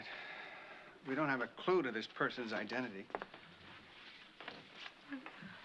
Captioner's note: exhales